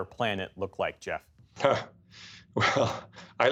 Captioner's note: laughter